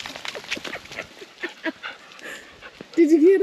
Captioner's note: laughing